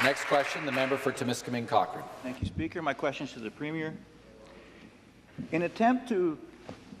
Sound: some Applause

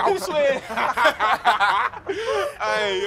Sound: laughs

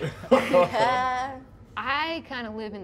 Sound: all laughing

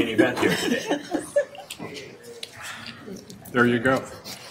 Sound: laughing

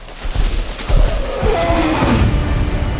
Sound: dinosaur roars

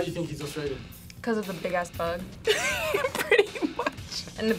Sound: laughs

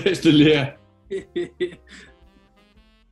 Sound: chuckling

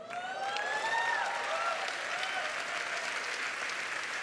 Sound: applause

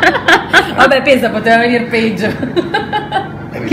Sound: laughing

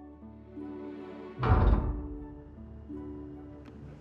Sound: mechanical clank

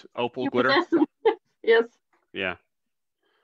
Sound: chuckles

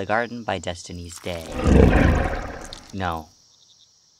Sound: Azazel Growls

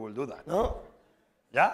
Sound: spanish

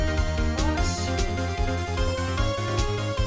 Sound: more korean anger

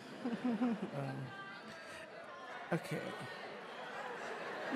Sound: audience shouting

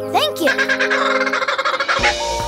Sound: squawking

